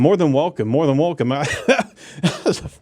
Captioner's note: laughs